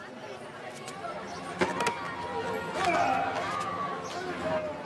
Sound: phone clatters

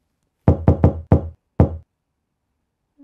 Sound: knocking

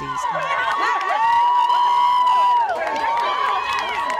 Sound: crowd cheering

